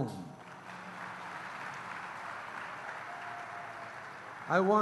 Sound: applause

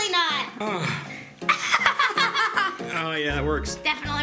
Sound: kids laughing

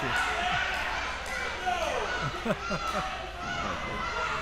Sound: laughs

